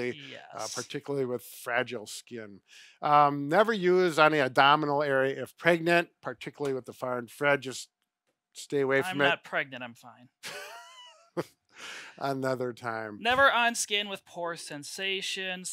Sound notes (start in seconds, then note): 10.4 chuckles